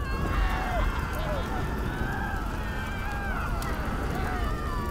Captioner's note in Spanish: Gritos